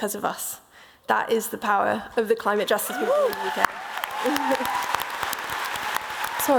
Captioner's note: applause